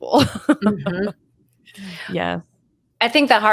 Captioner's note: chuckles